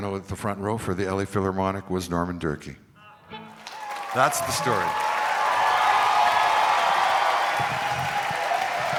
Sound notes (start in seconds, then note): 5.8 crowd cheering